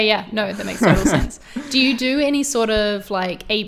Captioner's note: laughs